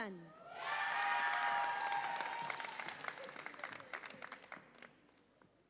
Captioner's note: audience applauds and cheers